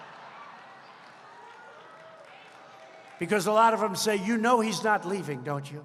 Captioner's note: applause